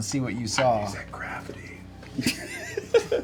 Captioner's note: whispering